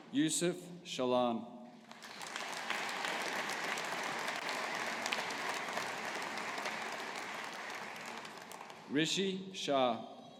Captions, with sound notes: Youssef Shaalan. (AUDIENCE APPLAUDING) Rishi Shah.